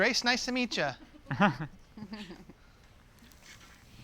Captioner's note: chuckling